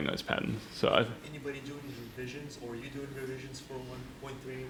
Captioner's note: voiceover